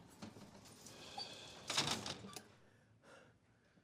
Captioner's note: sighs